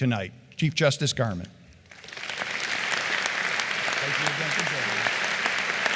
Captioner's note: applause